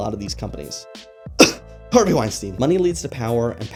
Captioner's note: cough